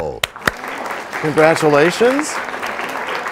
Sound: applause

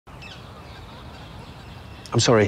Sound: seagulls calling

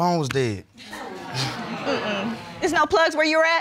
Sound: audience exclaims

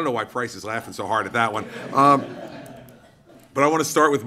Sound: laughter

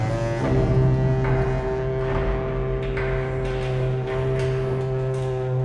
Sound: echo of footsteps and pipes

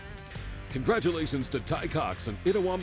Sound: voiceover

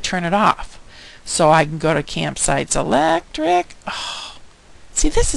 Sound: sighing

